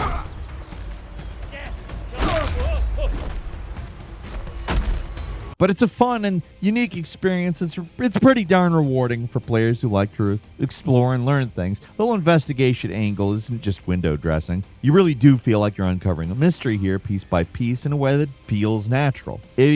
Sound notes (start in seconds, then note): 0.0 person grunting in pain; 4.9 sharp thudding